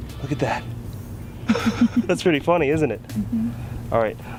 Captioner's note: laughing offscreen